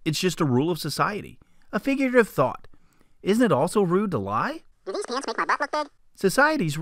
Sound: funny voice; man's voice

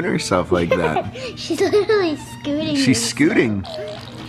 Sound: giggles

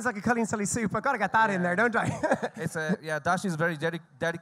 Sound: laughs

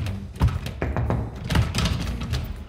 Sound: knocks

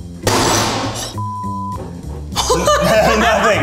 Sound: bowl clatters

